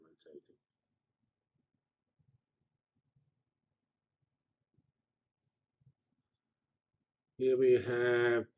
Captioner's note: pause